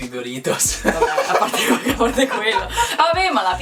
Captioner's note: laughs